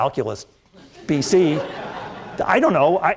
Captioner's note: laughter